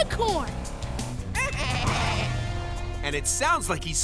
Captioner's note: bleating